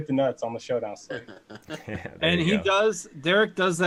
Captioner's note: laughing